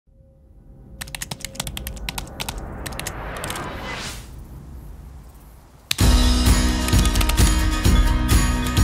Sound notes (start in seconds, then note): 1.0 keyboard clacking; 6.0 bright music